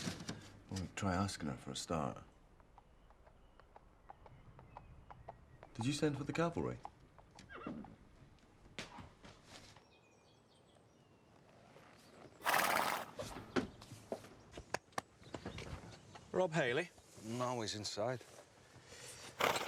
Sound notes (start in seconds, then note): 2.3 hooves clomping; 7.4 horse whinnies; 9.4 birds chirping; 12.4 horse snorts